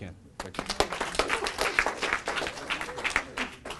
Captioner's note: applause